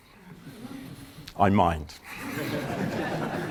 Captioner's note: laughter